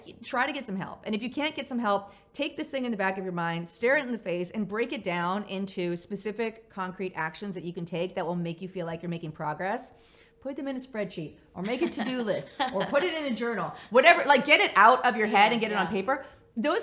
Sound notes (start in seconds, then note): 11.6 laughs